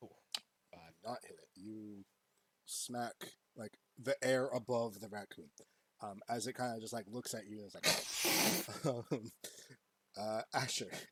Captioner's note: racoon noises